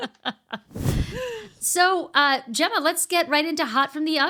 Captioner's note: laughing